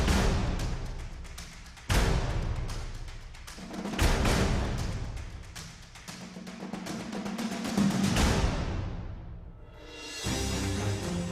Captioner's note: cheering